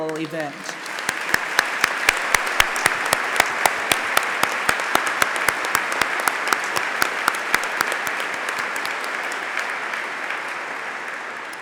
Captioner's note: applause